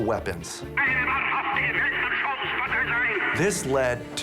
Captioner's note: speaking german